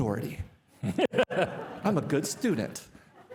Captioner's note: participants laughing